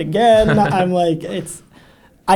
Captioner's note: laughs